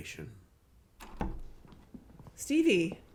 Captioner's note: door opens